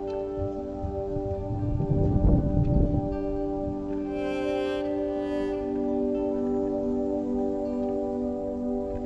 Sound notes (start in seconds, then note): 0.3 wind gust; 1.6 ambient music